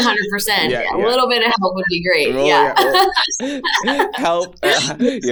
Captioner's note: laughs